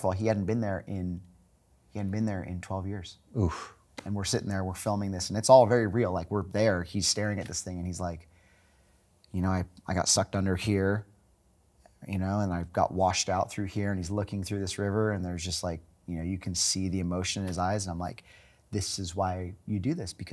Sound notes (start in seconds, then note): none